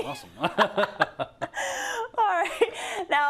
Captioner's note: laugh